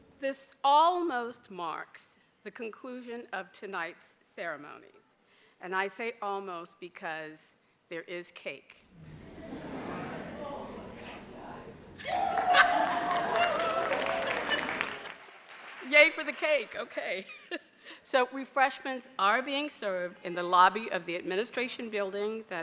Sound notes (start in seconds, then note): 8.9 audience murmurs; 12.0 audience applauds